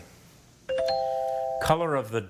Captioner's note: bell chimes